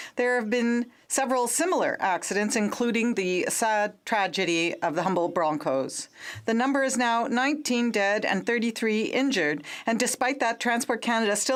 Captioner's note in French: voix de l'interprète